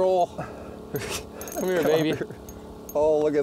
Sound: laughs

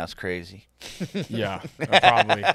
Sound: laughing

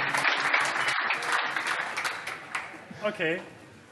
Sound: applause

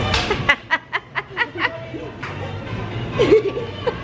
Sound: laughs

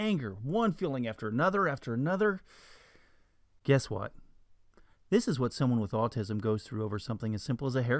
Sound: deep breath

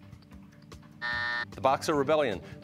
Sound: buzzer

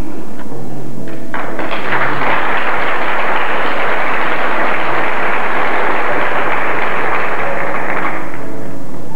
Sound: applause

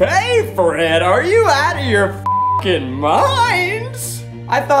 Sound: beep

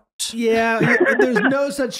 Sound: laughing

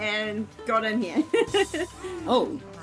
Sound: laughs

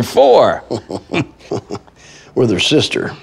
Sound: both chuckle

